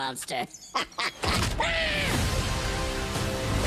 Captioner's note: screams